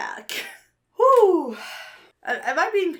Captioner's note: sighs